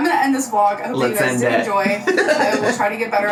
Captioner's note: laughs